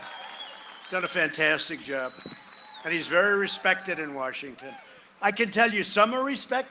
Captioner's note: cheering and applause